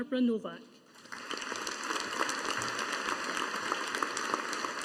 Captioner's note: audience applauding